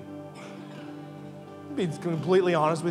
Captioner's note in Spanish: congregantes riendo